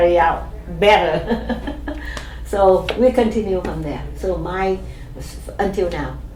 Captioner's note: laughs